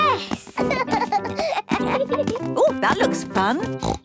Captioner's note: both laugh